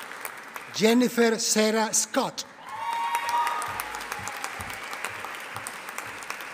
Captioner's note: audience applauding